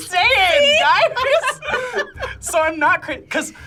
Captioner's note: both laugh